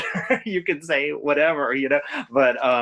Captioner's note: laughs